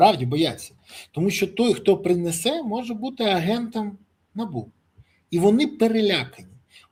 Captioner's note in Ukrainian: сопіння